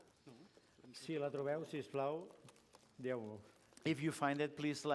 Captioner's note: non-english speech